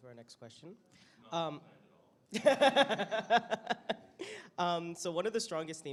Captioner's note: laughs